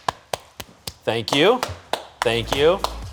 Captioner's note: applauding